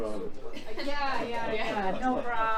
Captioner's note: laughs